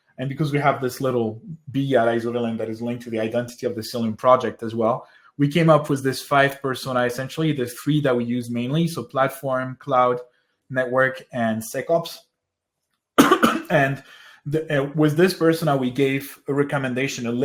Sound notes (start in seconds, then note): 13.2 coughs